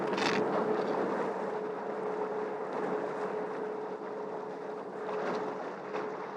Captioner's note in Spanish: Ruido del barco navegando